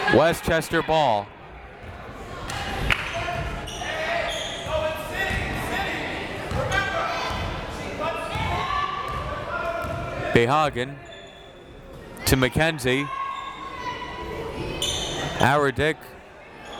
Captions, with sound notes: Westchester ball. (crowd members shouting) Behagen to McKenzie. Awerdick.